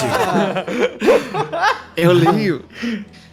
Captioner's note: laughter